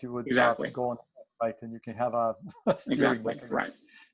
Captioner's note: laughs